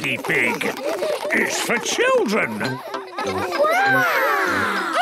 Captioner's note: children laughing